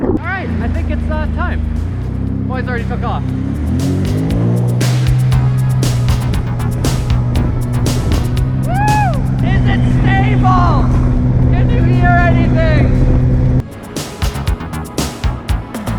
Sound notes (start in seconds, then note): 0.0 water splashing; 3.8 revving engine; 6.3 techno music; 13.2 techno music